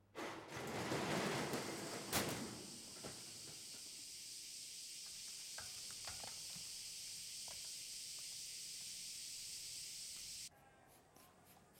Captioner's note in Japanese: セミの鳴き声